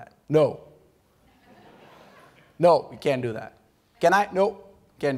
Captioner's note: laughter